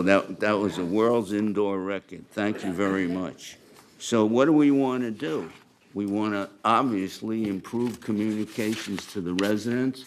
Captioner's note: laughter